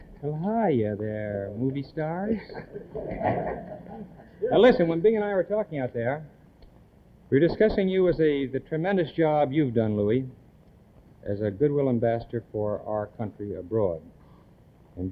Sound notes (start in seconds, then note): 2.3 the band laugh